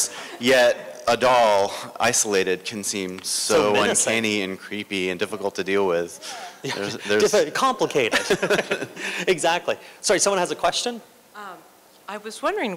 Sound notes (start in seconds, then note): 8.0 laughter